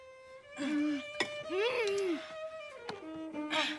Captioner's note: moans